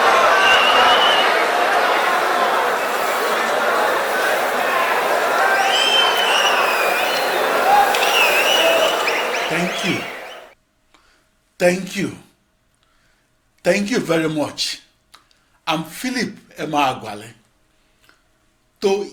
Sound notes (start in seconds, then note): 5.8 wild applause and cheering for 22 seconds